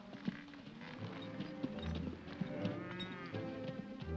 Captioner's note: ominous music; cattle moo; hooves trotting; ominous music